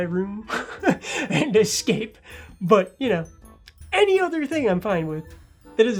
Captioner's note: laughs